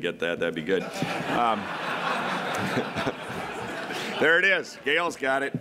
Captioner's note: laughter